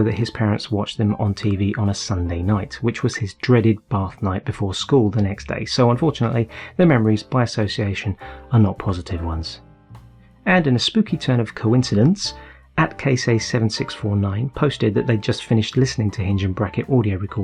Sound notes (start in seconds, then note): none